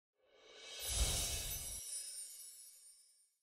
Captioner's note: chimes ring